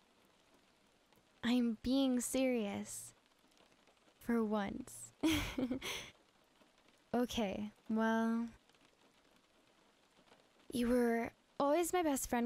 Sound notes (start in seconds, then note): 5.2 giggle; 5.7 sigh